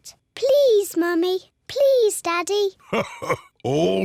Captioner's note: laughs